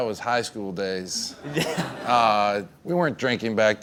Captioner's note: laughing